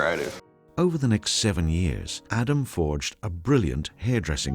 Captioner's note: voiceover